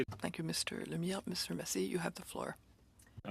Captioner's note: speaking FRENCH